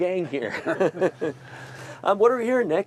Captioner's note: group laughs